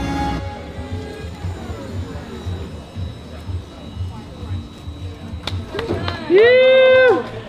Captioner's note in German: elektrischer Motor fährt runter; einzelner Jubel